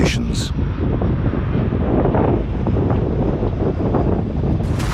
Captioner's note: wind rustling